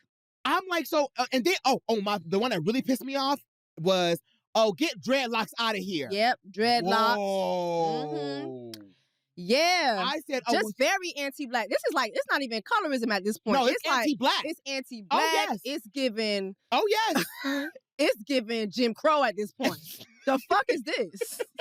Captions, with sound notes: I'm like-- so, and then-- Oh, oh, the one that really pissed me off was, "Oh, get dreadlocks out of here." -Yep. Dreadlocks. Mm-hmm. -Woah. Yeah, just very anti-Black. This is like-- It's not even colorism at this point. -It's like, it's anti-Black... -It's anti-Black. -Oh, yes. Oh, yes. -It's giving... (SCOFFS) It's giving Jim Crow at this point. -(CHUCKLES) -The fuck is this?